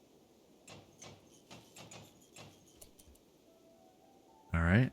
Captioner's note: silence